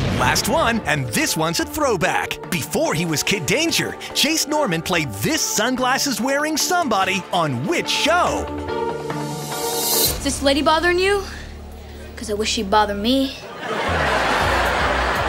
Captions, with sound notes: Last one and this one's a throwback! Before he was Kid Danger, Jace Norman played this sunglasses wearing somebody on which show? Is this lady bothering you? 'Cause I wish she'd bother me. [laughing]